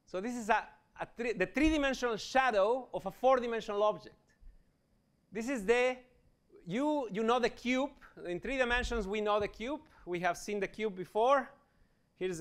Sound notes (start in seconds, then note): none